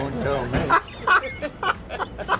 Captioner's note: laughs